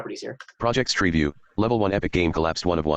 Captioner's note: computer Voice